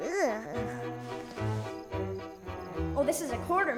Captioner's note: yawning